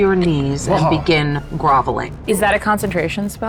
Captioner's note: groaning